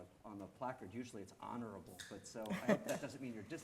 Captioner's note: laughing